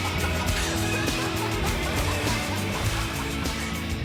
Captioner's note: laughter continues